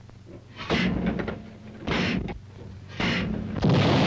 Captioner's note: capsules slamming shut; artillery firing